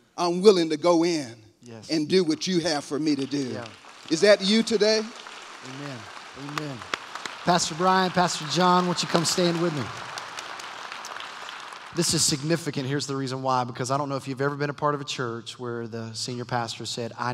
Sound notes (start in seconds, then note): 3.7 applause